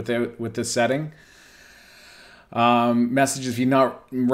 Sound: inhales sharply

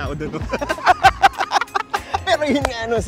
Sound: both laugh

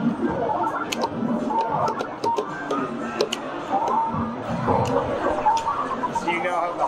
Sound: joystick clicking; game beeping

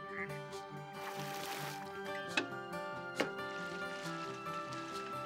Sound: water sloshing

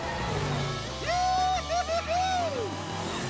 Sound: cheering

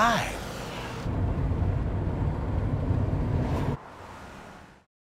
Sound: car engine roars

